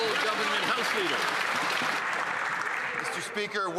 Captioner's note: some Applause